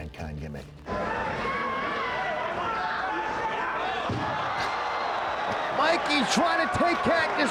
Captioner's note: applause